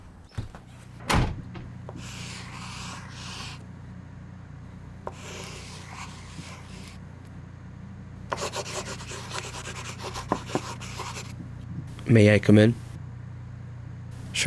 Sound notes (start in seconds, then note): 0.1 pen scribbling; 9.0 knock